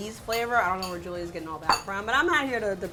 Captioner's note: plate clatters